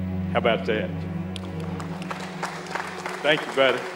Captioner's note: crowd applauds